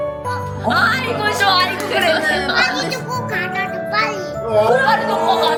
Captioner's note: cheers